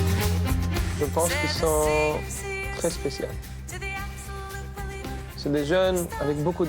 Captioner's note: speaking in foreign language